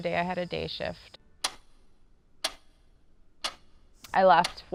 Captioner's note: clock ticks